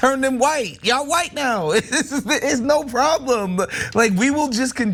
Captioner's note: laugh